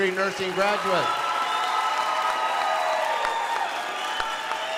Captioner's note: crowd applauding